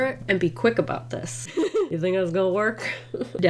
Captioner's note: laughs